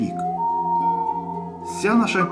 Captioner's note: Owl cries